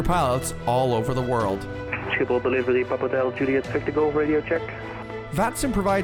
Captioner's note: radio chatter